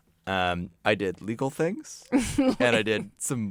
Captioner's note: laughs